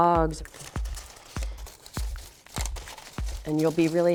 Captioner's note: wood strips rustling